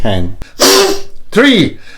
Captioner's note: deep breaths